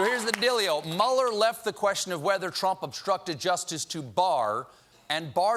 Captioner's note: cheers and applause